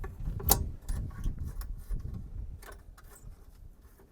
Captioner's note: metal clicking